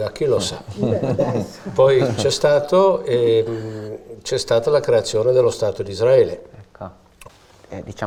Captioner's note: laughter